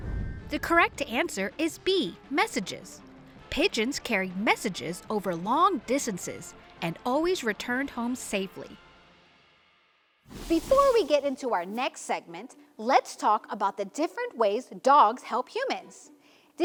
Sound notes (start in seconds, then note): 0.0 transition whooshes; 10.3 transition whooshes; 10.3 playful upbeat music fades